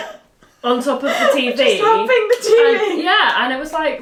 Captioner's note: laughing